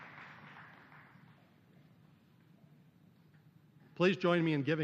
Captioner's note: applause